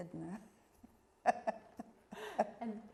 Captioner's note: laughing